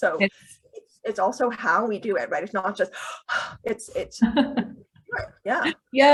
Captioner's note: breathing